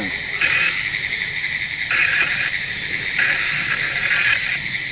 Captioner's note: static buzzing